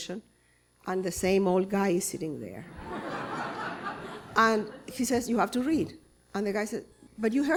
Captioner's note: laughter